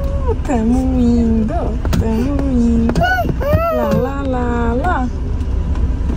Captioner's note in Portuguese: cantarolando